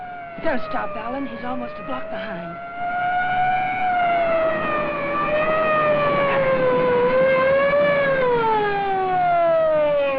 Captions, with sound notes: Don't stop, Alan. He's almost a block behind. (Police siren wails)